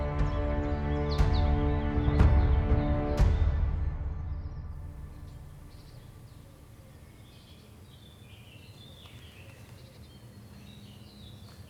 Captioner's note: birds chirping